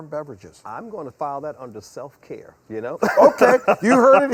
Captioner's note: laughs